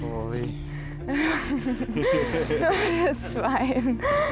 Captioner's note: laughing